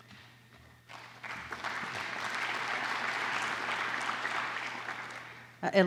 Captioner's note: applause